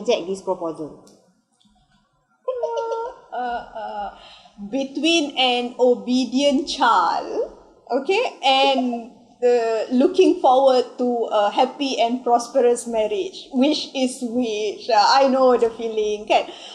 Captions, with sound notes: *Both laughing* Between an obedient child Okay.. And.. Looking forward to a happy and prosperous marriage Which is which? I know the feeling